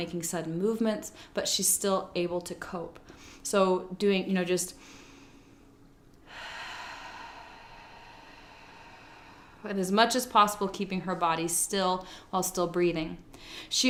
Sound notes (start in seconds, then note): 6.2 inhales; 6.2 exhales slowly